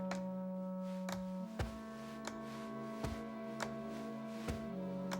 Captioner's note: crutches thudding